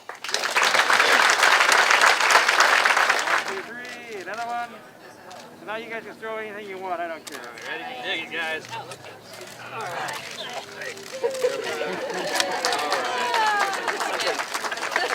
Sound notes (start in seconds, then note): 3.4 background talking